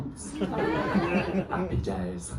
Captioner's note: laughter